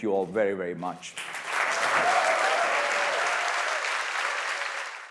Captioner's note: cheers, applause